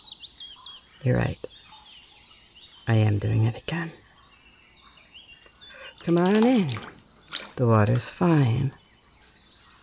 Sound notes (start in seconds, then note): 5.8 splash